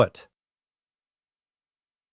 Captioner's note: pause